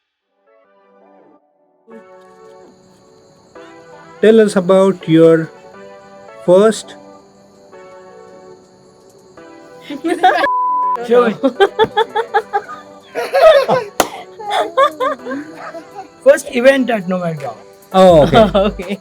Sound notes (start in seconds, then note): 9.8 everyone laughs; 11.0 laughs; 13.2 everyone laughs